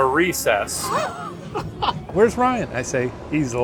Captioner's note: laughing